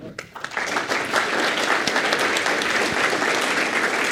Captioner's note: applause